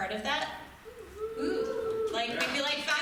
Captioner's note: crowd cheering